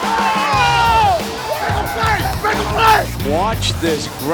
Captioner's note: cheering